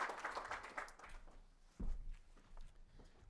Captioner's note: applause